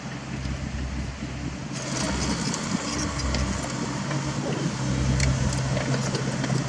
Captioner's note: steel scrape